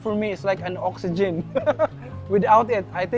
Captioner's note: laughs